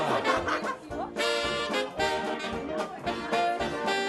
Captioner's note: laughter; derby chatter